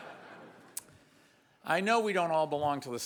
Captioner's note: audience laughs